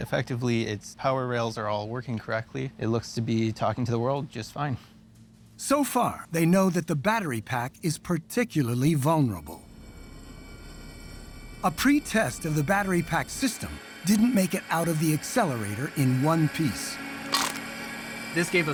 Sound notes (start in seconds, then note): 9.8 machine whirring; 17.2 crunches